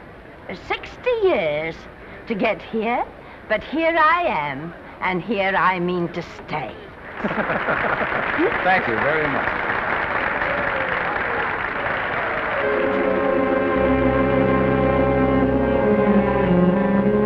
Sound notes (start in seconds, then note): 7.1 applause and laughing; 10.5 applause continue